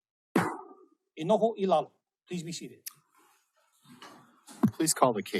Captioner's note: gavel bangs once